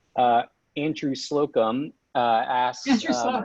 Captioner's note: laughs